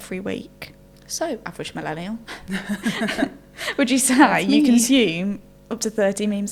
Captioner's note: laughing